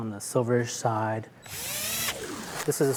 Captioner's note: drill grinding